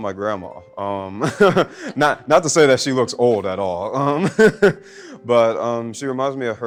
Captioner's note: laughs